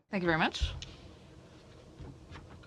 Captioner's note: speaking French